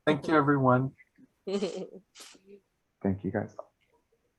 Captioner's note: laughing